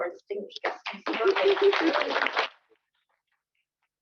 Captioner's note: applause